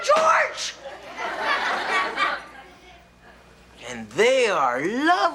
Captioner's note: audience laughs